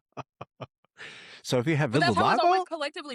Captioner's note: both Laughing